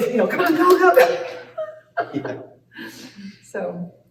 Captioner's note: laughter